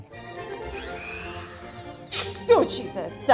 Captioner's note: power tool whirs